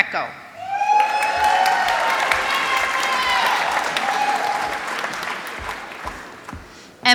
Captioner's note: applause